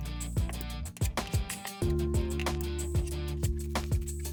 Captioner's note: gentle music; tool scraping